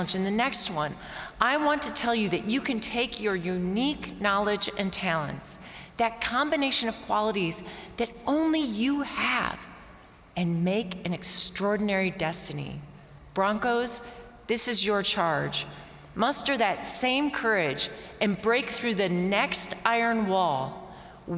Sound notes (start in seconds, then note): none